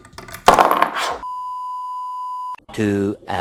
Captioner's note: beep